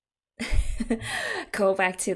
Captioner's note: laughs